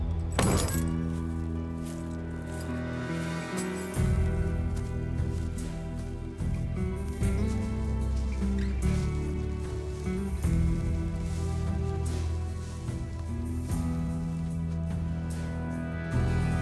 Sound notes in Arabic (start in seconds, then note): 0.1 يُغلق الصندوق، خشخشة المفاتيح; 5.0 خطوات